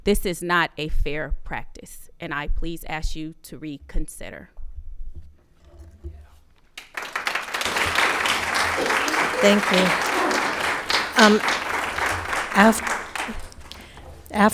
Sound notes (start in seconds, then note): 6.7 audience clapping hands